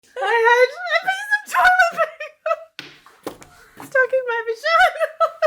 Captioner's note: laughing; laughing hysterically